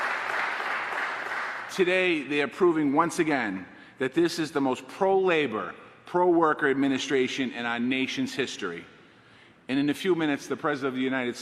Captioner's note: applause